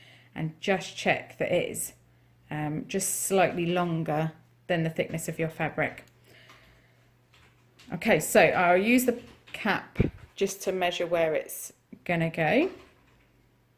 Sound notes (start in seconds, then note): none